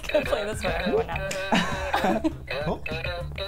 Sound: laughing

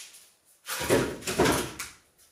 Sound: wooden noise

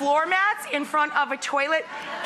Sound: audience laughing

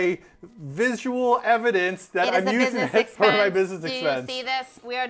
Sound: robotic voice

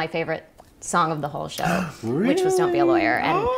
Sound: gasp

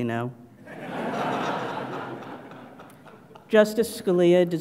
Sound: laugh

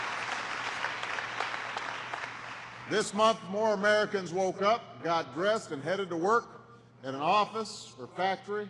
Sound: applause

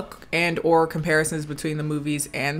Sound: none

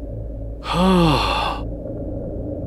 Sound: sighs

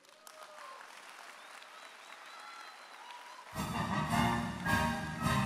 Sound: audience applauding and cheering; jaunty orchestral music

